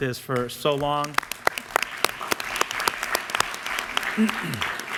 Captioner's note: applause